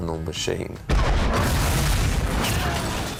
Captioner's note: explosion